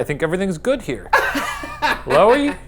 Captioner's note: laughs